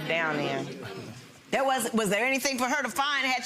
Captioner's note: audience chuckles